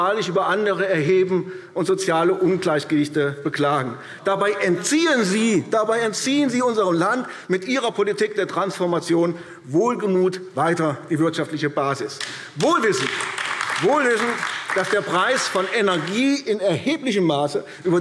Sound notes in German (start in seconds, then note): 12.2 Beifall AfD